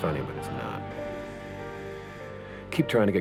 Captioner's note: alarm buzzes